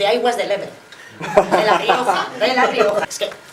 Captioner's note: laughs